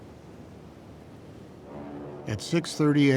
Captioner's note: engines roaring